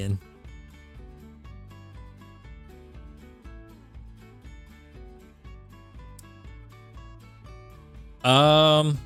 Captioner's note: silence